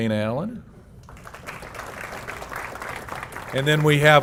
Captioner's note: applause